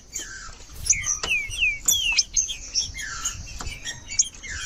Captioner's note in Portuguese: trinca ferro cantando